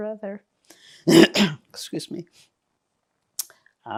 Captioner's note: clears throat